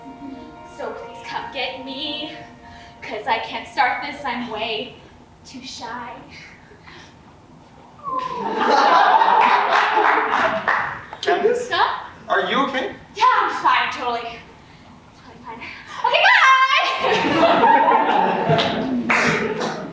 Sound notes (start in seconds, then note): 8.0 audience awws and laughs; 16.9 audience laughs